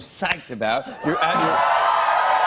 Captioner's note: cheers and applause